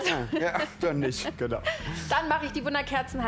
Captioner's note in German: Sie lachen